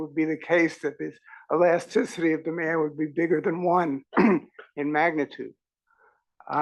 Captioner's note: cough